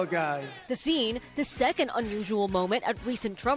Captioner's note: cheers